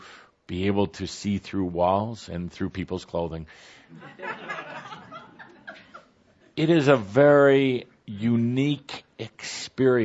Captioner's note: laughter